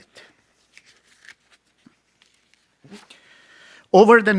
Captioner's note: page turns